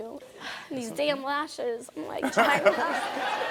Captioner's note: sighing; audience laughing